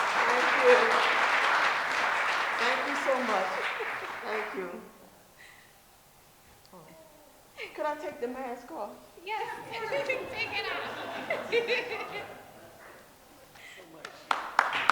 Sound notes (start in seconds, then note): 12.1 laughs; 13.8 applause